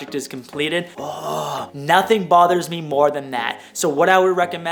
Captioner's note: grumbling